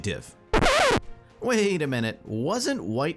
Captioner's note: audio breaks